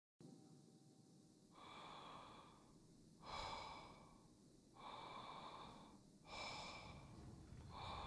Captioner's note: heavy breathing